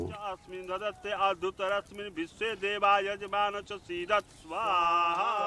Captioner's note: chanting continues